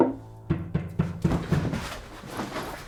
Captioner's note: knocking at door